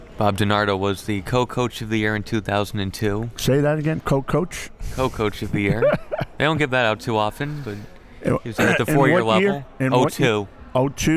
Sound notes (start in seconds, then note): 5.5 laughs